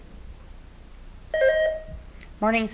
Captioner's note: buzzer beeps